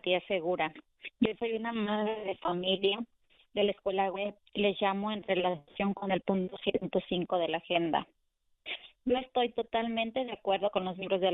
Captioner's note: speaking spanish